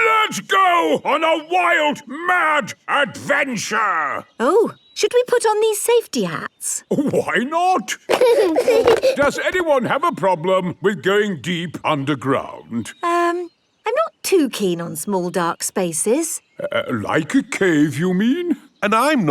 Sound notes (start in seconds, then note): 7.9 giggling